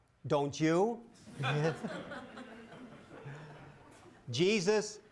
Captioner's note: laughter